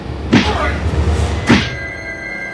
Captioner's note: Massai grunting; solemn music